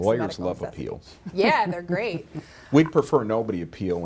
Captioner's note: laughs